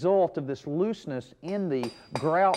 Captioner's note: mason hammering